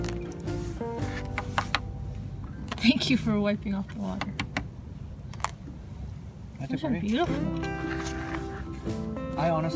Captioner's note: tapping sound